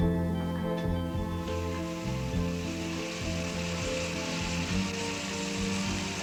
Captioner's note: engine rumbling